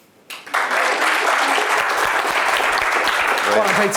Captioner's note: audience applause